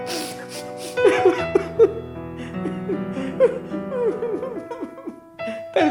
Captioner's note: crying